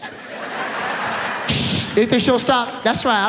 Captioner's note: audience laughs